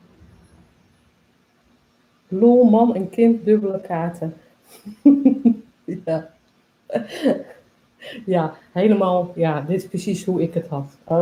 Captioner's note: laughs